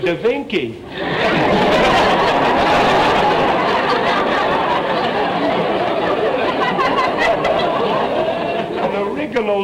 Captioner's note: audience laughter